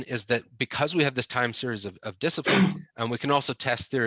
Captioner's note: loud bang